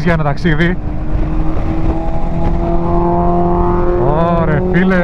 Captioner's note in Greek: ηχος εξατμισης μηχανης